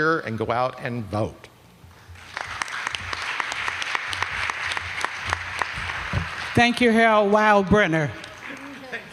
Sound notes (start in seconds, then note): 2.1 applause